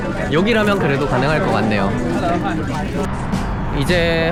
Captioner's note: laughs